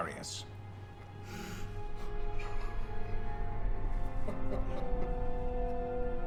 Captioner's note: sobbing